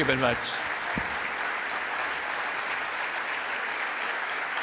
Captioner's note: audience clapping